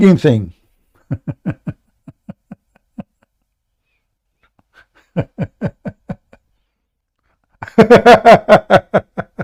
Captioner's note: Ketawa